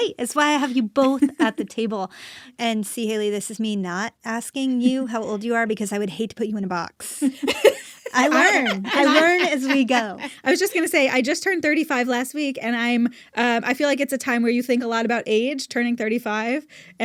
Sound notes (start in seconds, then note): 7.4 laughs